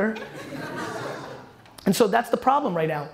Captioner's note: audience laughter